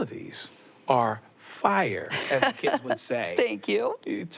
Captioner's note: laughs